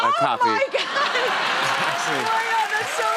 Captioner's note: laughter